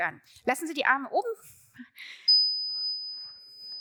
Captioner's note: bright tone